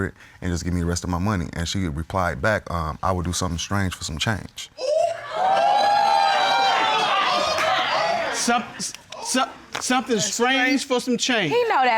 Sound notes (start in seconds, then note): 4.8 crowd whooping